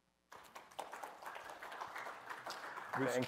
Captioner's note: applause